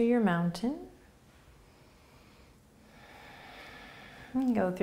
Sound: breathing

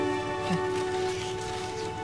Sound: scoffs

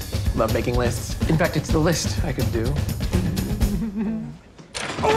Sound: chortles

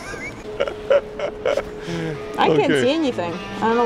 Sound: laughing

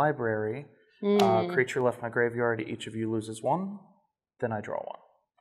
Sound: sounds of disapproval

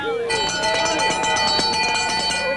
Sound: ringing

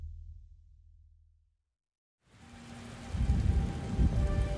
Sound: rain pattering

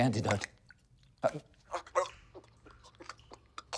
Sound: gurgling; gags

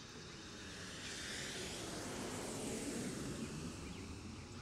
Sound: car zooms passed

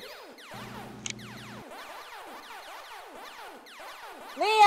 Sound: video Game Noises

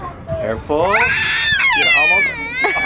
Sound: screams

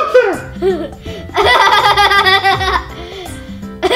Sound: laughing

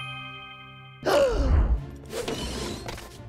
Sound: dinging; gasping

